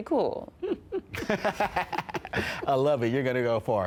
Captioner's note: laughs